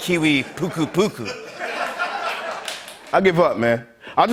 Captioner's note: laughter and applause